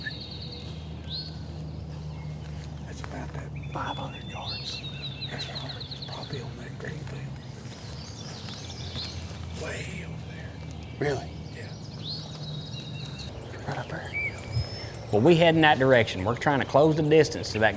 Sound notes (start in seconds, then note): 6.6 whispering